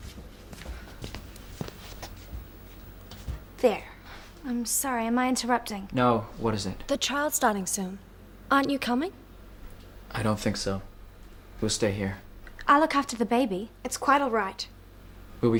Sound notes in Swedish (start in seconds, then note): none